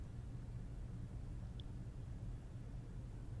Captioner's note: none